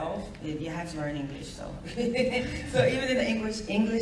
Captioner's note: laughs